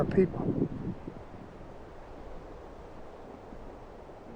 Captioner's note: wind blowing